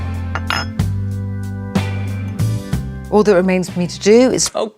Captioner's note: ceramic clinking